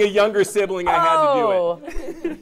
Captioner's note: laughter